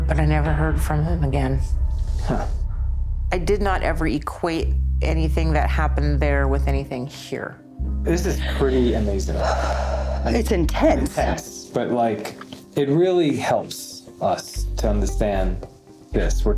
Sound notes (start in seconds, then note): 9.3 sighs